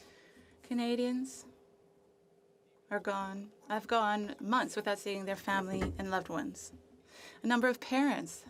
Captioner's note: speaking French